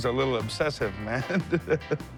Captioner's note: chuckles